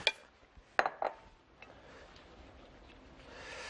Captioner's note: bowl taps